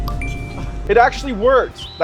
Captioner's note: machine dinging